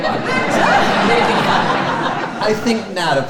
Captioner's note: audience laughing